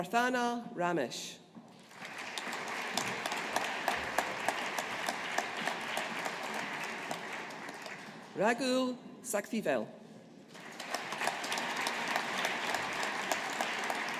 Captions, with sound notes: Prarthana Ramesh. (AUDIENCE APPLAUDING) Raghul Sakthivel. (AUDIENCE APPLAUDING)